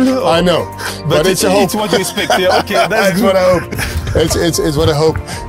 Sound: rire

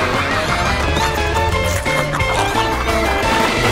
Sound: squeaking

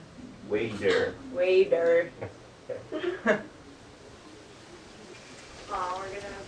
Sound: laughs

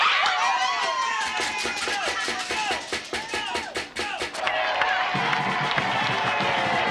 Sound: crowd cheering; upbeat marching band music

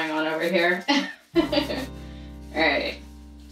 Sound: laughs

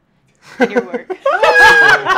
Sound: laughter

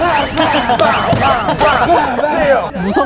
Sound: excited spectators

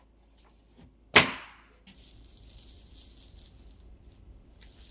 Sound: nail gun bangs

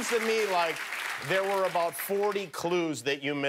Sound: cheers and applause

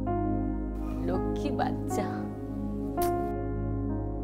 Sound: kisses

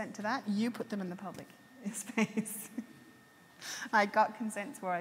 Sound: laughs

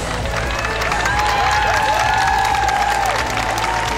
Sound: cheering

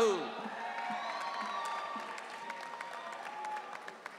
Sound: audience cheering

